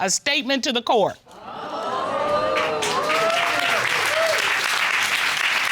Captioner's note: audience exclaims